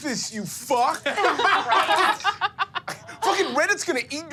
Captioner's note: laughter